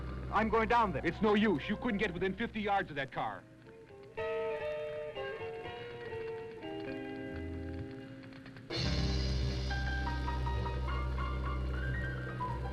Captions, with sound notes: - I'm going down there. - It's no use, you couldn't get within 50 yards of that car. (somber music) (fire crackling)